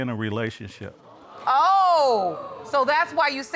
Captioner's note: audience exclaims